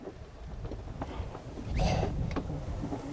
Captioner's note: gasps